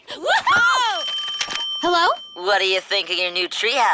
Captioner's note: giggling; phone ringing